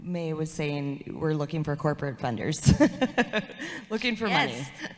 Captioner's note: laughs